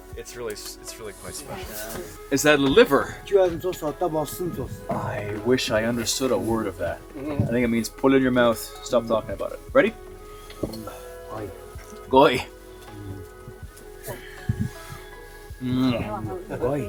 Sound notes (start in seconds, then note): 3.6 elder speaks in foreign language; 11.6 elder speaks in foreign language; 12.4 speaks in foreign language